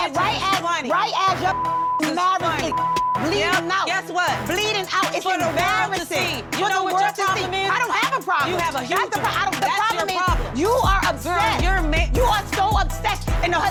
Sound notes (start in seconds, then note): 2.6 beep